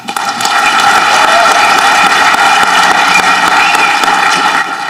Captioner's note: audience clapping